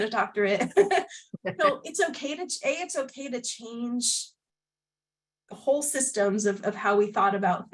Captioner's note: laughter